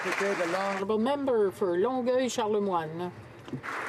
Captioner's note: some Applause